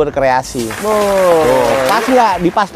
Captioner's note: applause